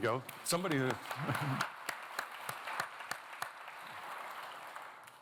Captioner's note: applause continues